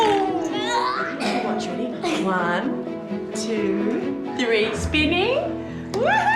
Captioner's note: exclaims